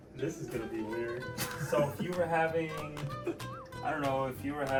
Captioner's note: laughs